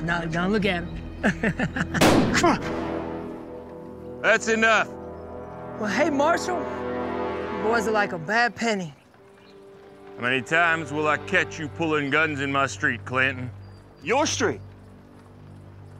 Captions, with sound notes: NOW LOOK AT HIM! [CHUCKLES] [GUNSHOT FIRED IN AIR NEARBY] THAT'S ENOUGH. WELL, HEY MARSHAL. YOU BOYS ARE LIKE A BAD PENNY. HOW MANY TIMES WILL I CATCH YOU PULLING GUNS IN MY STREET, CLINTON? YOUR STREET?